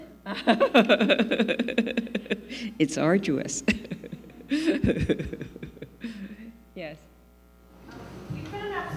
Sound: laughing

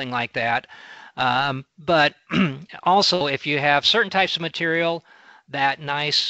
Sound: clears throat

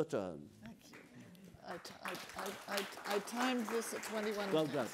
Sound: participants applaud

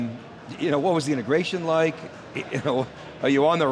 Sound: laughing

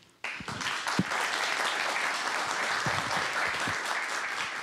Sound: audience applauds

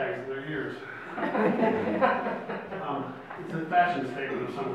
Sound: audience laughs

